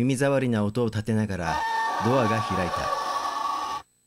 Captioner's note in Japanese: ドアの開く音：ギイイィィ